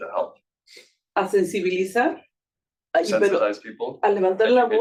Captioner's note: speaking Spanish